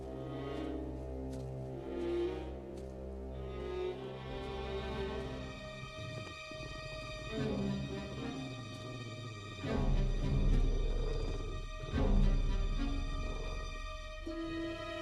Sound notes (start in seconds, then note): 0.2 low ominous music; 9.1 creature grumbling lowly